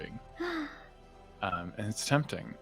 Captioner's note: gasps